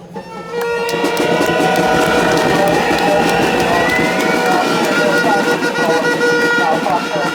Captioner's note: applause